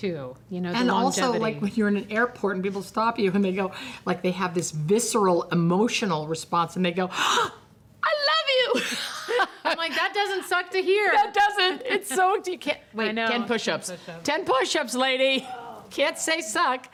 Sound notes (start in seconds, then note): 7.5 gasps; 15.4 groans